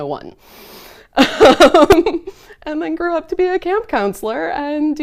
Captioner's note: laughs